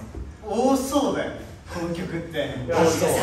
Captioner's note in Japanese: 足音